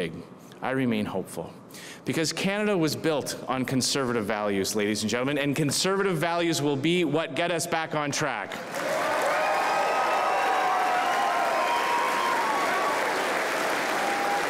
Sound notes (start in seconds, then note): 8.6 cheers and applause